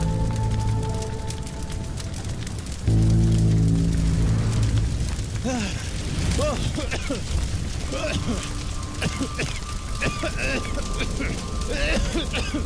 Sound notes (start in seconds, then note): 5.4 gasping; 6.8 coughing